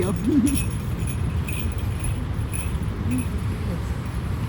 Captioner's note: hiker's bear bells jingling; laughs